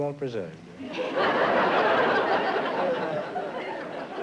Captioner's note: laughter